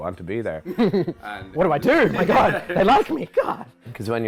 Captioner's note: laughs